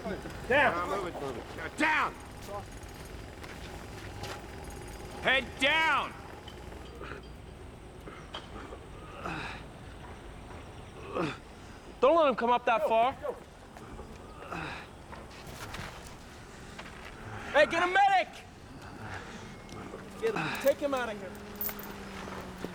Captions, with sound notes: DO! DOWN! HEAD DOWN! [ GROANING ] DON'T LET HIM COME UP THAT FAR. HEY, GET A MEDIC! TAKE HIM OUT OF HERE.